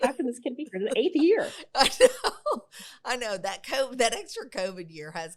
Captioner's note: laughs